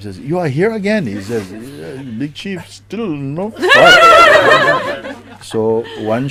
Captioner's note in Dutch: Gelach